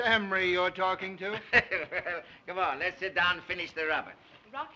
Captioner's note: laughs